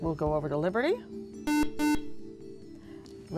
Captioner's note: buzzer